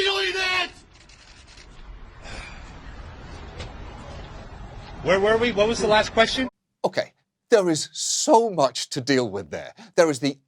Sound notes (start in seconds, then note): 2.2 sighs